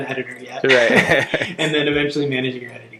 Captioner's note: both laughing